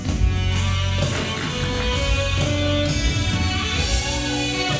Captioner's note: hands tapping